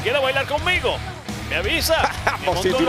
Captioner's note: laugh